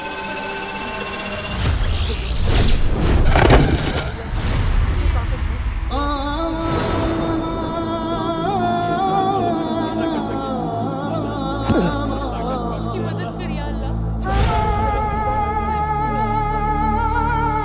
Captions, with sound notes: [suspenseful music playing] [prayers] Help him, O Lord!